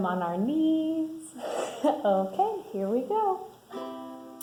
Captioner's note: laughs